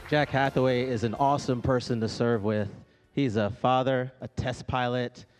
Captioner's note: applause